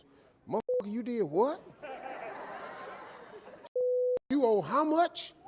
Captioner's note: audience laughing